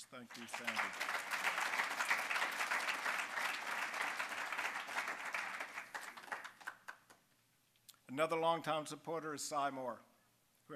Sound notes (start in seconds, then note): 0.0 applause